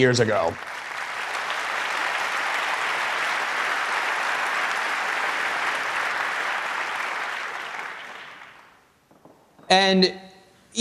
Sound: applause

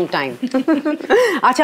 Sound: all laughing

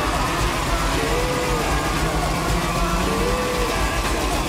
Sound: crowd cheering

